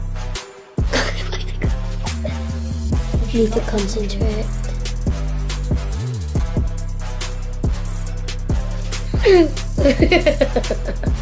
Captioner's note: laughs